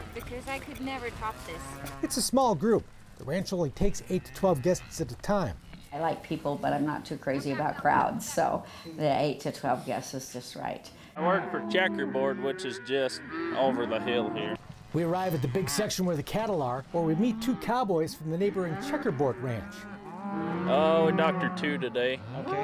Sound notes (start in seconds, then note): 19.6 cattle mooing